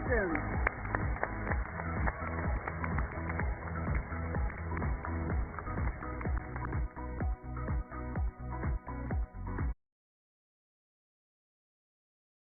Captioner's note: cheers and applause